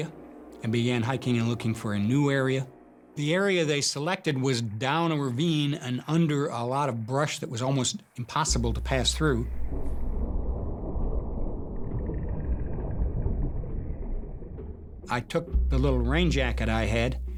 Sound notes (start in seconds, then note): 8.5 thunder rumbling